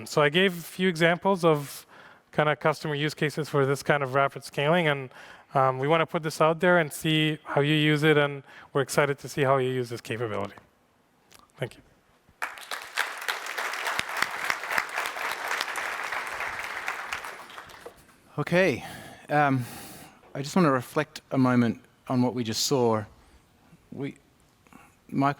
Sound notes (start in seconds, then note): 12.4 applause